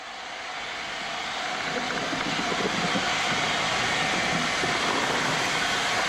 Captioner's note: train rolling in